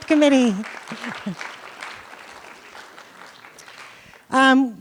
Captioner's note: applause